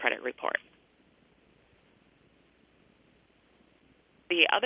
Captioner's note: pause